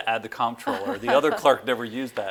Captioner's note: laughs